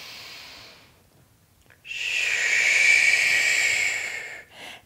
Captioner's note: inhale